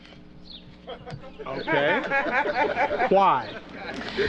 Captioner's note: laughter